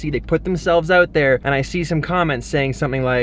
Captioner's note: none